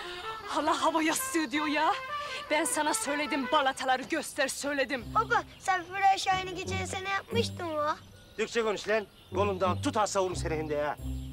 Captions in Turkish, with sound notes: Hâlâ hava yastığı diyor ya! Ben sana söyledim, balataları göster söyledim. (Almanca konuşma) Türkçe konuş lan! Kolunda tutar savururum seni şimdi ha!